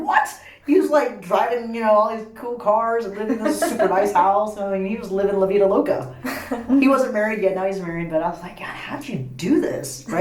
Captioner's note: laughs